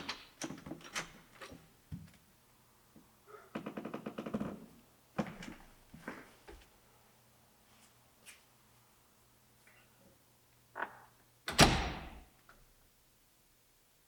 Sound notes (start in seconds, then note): 0.0 lock clicks; 1.0 door clicks; 11.5 door bangs